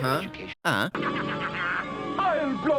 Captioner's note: Green Goblin laughs